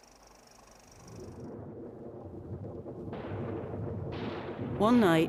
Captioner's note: rumbling, explosions